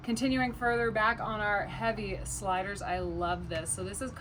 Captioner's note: none